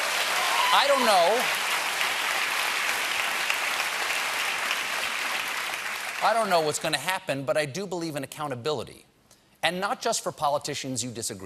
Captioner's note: cheers and applause